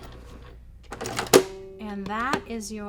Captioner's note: machine clicks